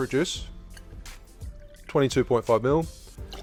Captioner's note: juice pours; juice pours